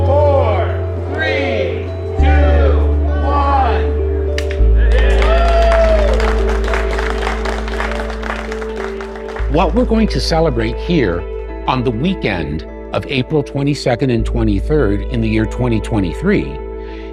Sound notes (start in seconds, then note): 4.8 applause